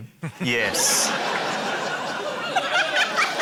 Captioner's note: laughter